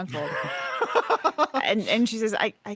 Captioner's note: laughs